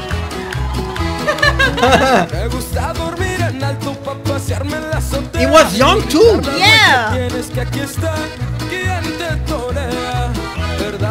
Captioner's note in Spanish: Aplausos